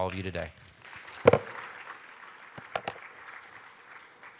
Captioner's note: applause